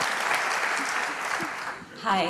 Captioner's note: applause